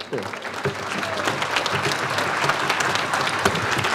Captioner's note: audience applauds